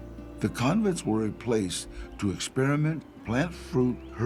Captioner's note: in English